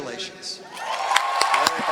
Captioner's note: applause